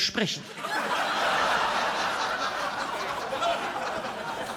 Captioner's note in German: Gelächter